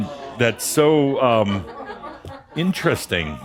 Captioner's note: Adamus chuckles and audience laughter